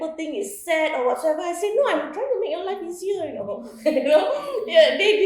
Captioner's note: laughs